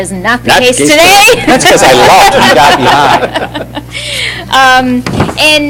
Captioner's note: laughter